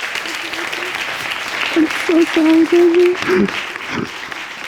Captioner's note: sobbing